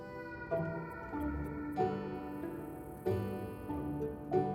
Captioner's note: insects buzzing